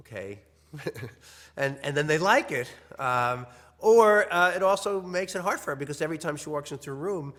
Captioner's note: laugh